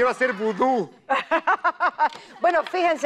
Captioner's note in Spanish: Ríe